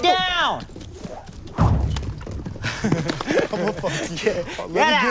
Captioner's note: laughing